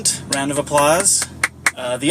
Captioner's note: clapping